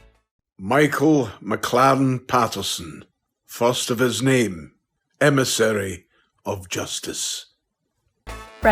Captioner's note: deep voice speaks